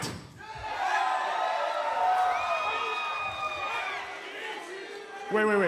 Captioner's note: crowd cheering